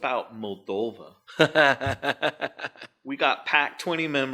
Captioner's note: laughing